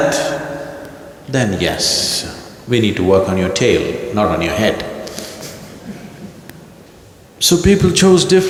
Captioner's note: laughs